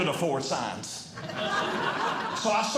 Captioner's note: audience Laughing